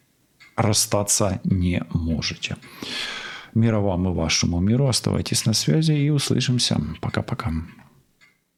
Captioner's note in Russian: вздыхает